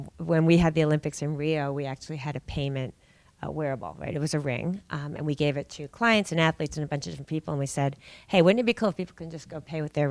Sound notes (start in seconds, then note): none